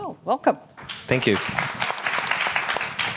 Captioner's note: audience clapping